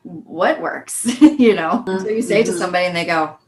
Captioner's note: laughing